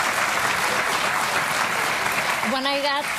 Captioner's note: audience clapping